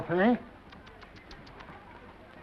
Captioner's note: stylist tsking